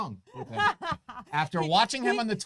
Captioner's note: laughs